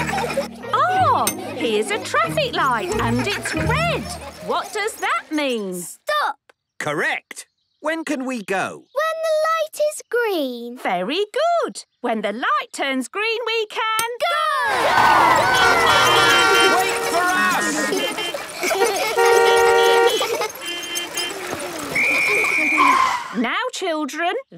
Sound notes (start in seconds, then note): 0.0 laughter; 16.0 beeping; 18.4 beeping; 18.5 laughter; 21.8 whistle blowing